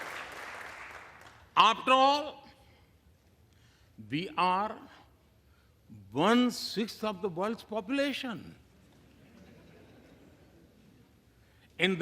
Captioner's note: applause